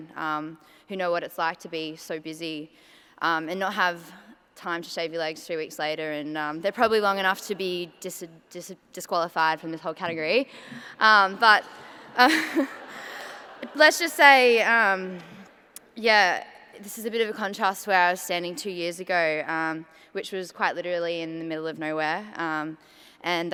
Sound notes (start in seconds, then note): 12.1 light laughter